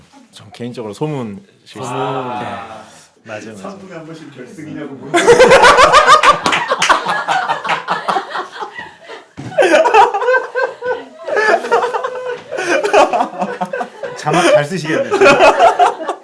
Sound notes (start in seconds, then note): 6.5 finally cracks a real laugh; 10.2 laughing